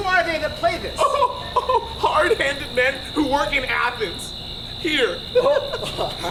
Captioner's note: laughs